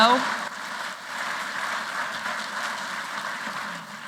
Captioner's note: applause